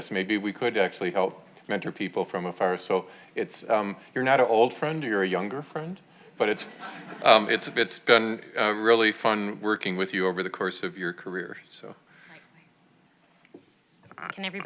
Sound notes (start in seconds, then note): 6.5 audience laughs